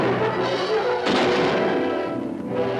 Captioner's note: gunshot; suspenseful music